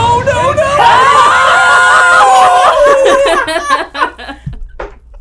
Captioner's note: laughing